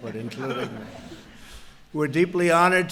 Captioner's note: laughter